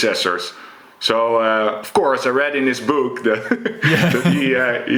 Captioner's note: chuckles